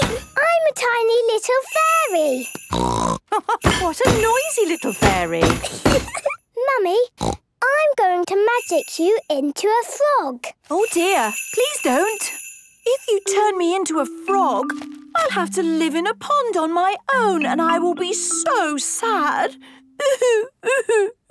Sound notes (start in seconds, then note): 2.7 snort; 3.2 laugh